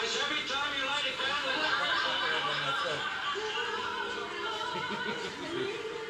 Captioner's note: TV audience laughs; upbeat music